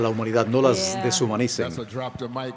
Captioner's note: cheers and applause